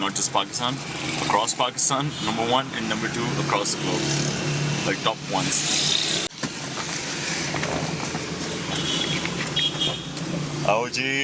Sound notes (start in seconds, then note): 6.3 car door opens